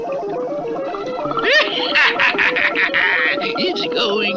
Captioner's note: Simon Bar Sinister Laughs